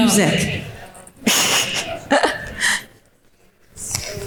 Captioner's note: laughing